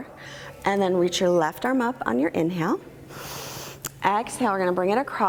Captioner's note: exhaling